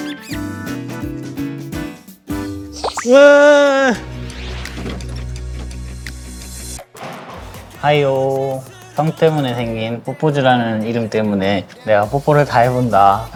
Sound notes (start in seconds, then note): 2.8 muaah